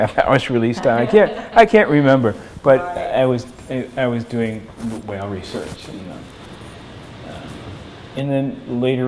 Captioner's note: laughter